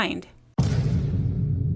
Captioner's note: heavy implosion sfx